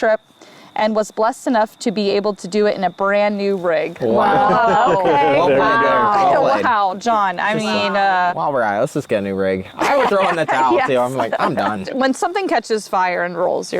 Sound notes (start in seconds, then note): 4.0 group laughs; 9.7 group laughs